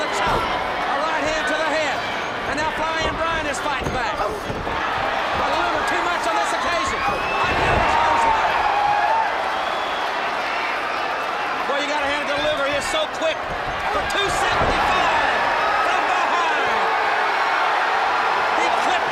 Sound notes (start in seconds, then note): 5.4 crowd chatter; 9.1 crowd cheering; 16.1 crowd cheering